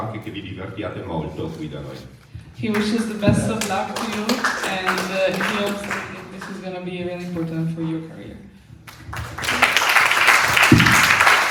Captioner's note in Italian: Applauso